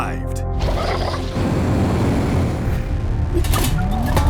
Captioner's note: 2Bells growling